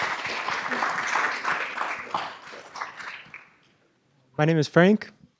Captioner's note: applause